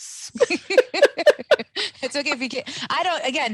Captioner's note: laughing